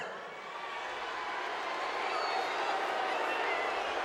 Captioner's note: crowd clamoring